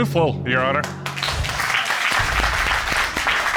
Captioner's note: applause